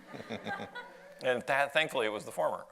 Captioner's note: audience laughs